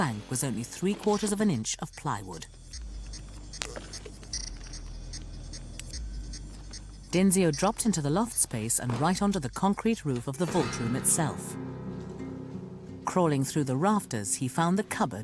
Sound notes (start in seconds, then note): 8.2 voiceover